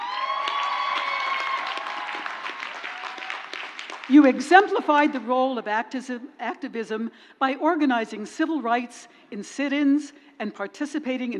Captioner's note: crowd cheers